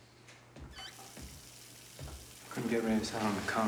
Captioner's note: running water